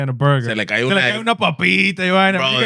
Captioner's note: speaking Foreign Language